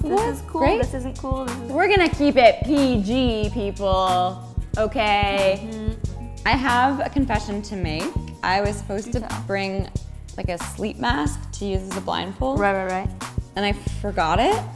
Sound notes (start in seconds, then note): none